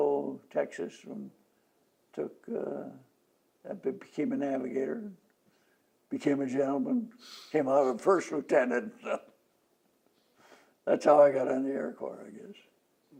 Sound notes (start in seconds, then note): 9.2 laughs